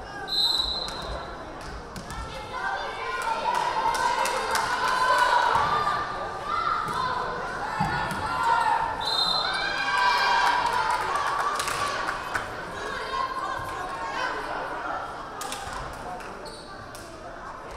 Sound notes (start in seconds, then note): 0.3 whistle blaring; 7.8 crowd cheering; 9.0 whistle blaring